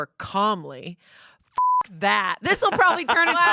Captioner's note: beep